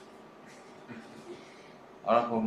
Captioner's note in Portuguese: risos